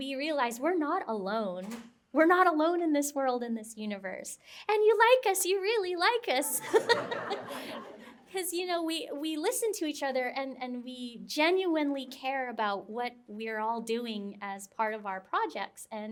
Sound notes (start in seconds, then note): 6.5 laughter